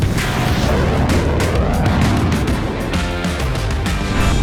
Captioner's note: dramatic music; jet whooshing; engines roaring; upbeat music